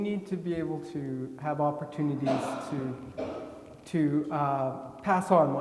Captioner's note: attendee coughing